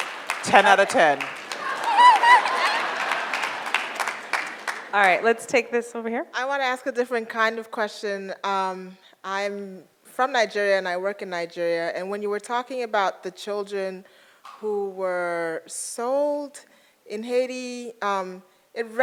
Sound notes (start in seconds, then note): 1.7 audience applauds; 1.7 audience laughs